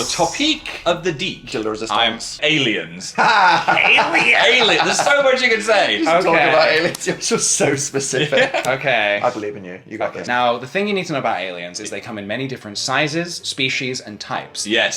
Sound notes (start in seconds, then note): 3.0 laughs